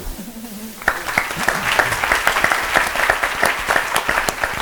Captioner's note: applause